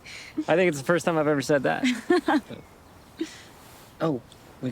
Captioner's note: Zoe laughs